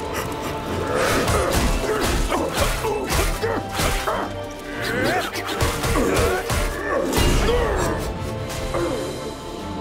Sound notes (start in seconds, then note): 0.1 grunting